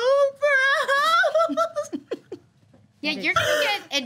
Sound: group giggling; crying

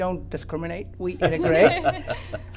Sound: guest and host laugh

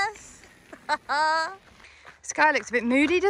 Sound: laughs

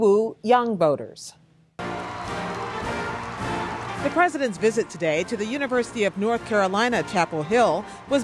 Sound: cheering and applause

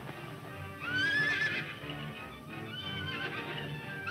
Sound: horses neigh

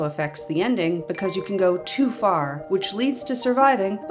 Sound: ding!

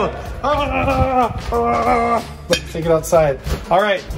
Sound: yelling

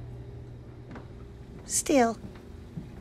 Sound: whirring

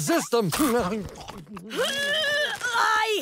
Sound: grunting

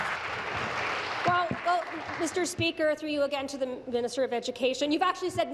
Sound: applause

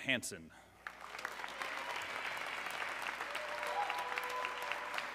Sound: audience cheering

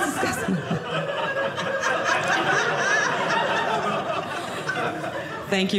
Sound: audience laughing

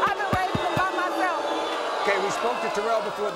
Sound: audience boos

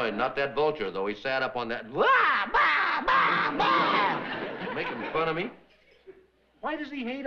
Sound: bird sounds

